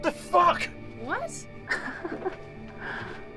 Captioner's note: laughs